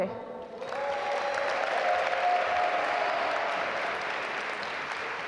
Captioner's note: audience applaud